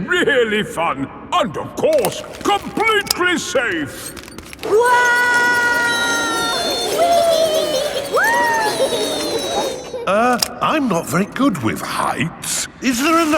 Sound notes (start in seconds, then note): 5.2 all yelling